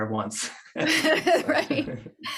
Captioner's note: laughs